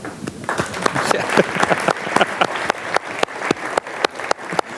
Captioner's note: audience applauds